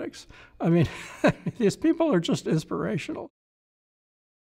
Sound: laughs

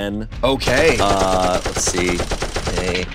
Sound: machine gun firing

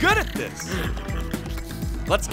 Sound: snoring

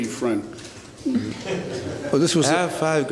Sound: laughter

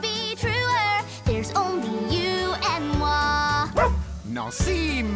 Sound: barks

